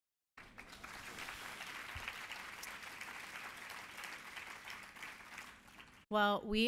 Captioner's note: applause